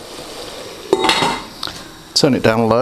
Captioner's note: clang